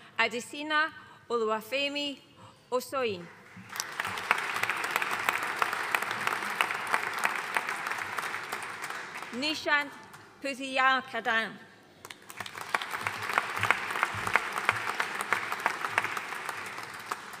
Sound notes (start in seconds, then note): 3.4 audience applauding; 12.1 audience applauding